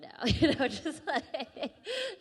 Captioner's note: laughing